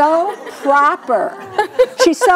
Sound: audience laughs; laughs

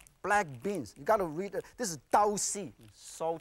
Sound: speaking in foreign language

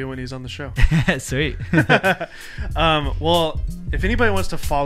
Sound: laughing

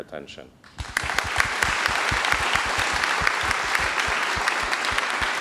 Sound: applause

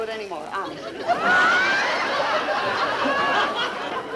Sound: audience laughing

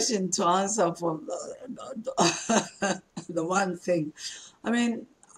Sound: laughs

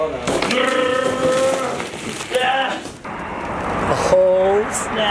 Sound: imitates engine sound

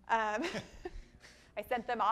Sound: laughs; man laughs

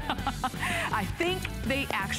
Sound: laughter

